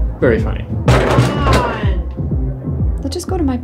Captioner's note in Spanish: door rattling; Voiceover